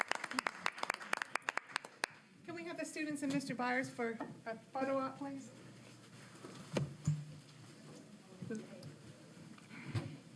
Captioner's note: applause